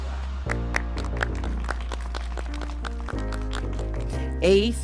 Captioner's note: applause